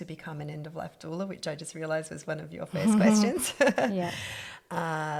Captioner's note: laughs